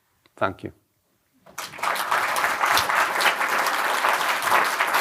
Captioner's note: applause